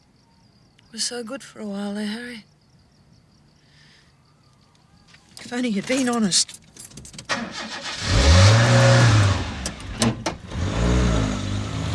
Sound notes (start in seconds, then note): 6.8 starts engine